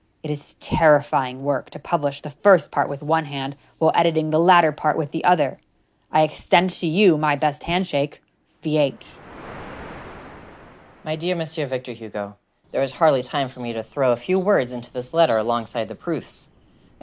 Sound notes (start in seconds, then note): 8.6 wave crashing; 11.2 birds chirping